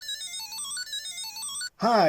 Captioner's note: Barcode Battler II Startup Sound